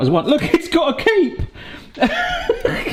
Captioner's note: laughs